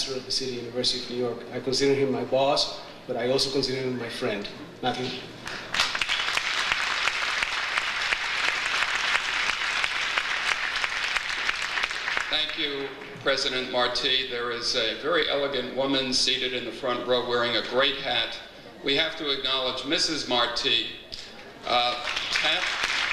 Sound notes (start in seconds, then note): 5.4 audience applauds; 22.8 audience applauds